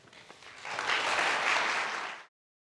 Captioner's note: applause